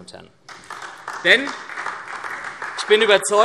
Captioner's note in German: Beifall SPD